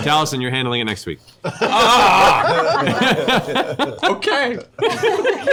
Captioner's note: groans; laughter